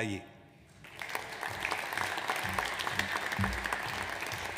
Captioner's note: audience applauds